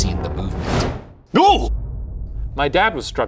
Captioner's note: yelling